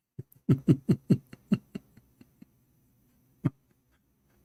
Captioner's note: Ketawa